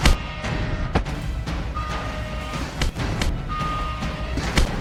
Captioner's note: ship alarm blares